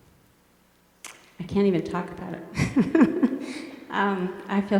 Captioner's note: laughs